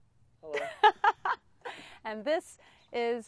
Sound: laughs

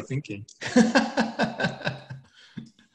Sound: laughs

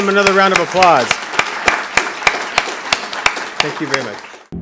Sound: applause

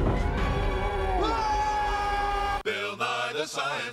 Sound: <i> screams</i>

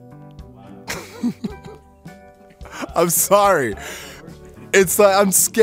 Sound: laughs

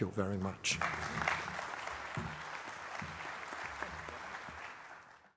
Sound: applause

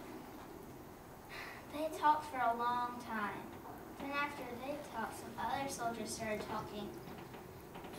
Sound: sigh

